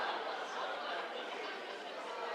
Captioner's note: laughter